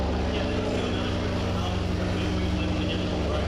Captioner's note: players chatter